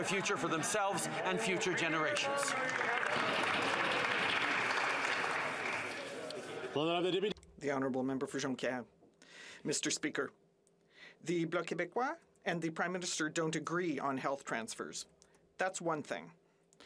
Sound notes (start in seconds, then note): 7.6 some Applause